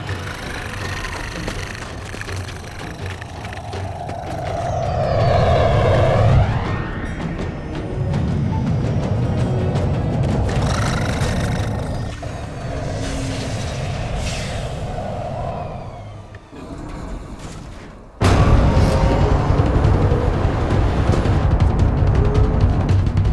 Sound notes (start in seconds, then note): 0.0 creature growling; 4.5 ship engine roars; 9.8 dramatic music; 17.4 hatch thuds; 18.2 sonic boom; 20.4 intense music